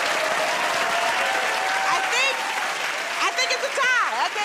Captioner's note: cheers and applause